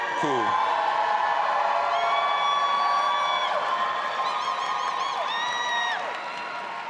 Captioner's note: audience applauding and cheering